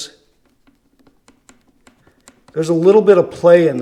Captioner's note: faint clicking